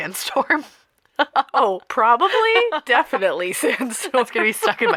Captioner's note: laughter